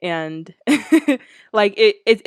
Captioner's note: laughs